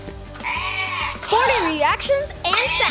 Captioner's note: toy yells